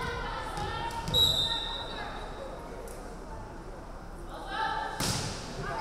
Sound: referee whistling

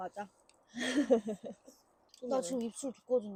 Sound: laughing

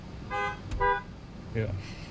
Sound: horn beeps

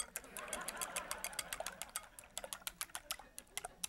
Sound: laughter

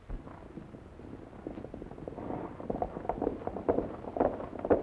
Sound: horse hooves clomping

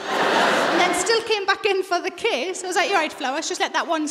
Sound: laughter

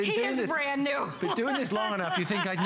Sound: laughter

